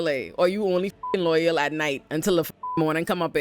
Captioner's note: beep